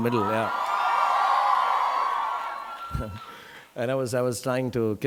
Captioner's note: audience cheering